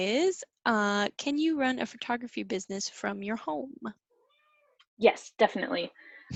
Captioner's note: cat meows in agreement